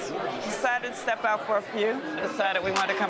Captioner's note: crowd murmuring